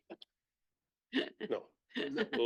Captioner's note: laughing